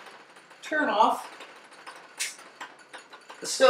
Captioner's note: snap of electric stove rheostat turning off